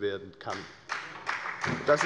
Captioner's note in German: Beifall bei der FDP und bei Abgeordneten der SPD